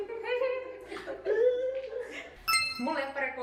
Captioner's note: more random high-pitched sounds